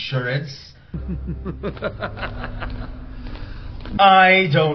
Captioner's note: laughs